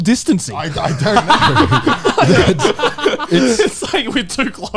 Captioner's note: men laugh